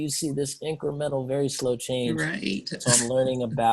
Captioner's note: chuckles